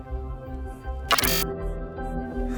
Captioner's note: Glitch